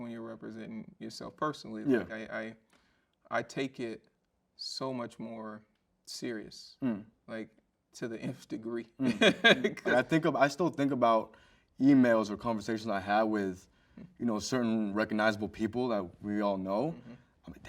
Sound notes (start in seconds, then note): 9.0 chuckles